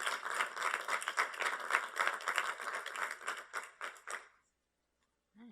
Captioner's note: applause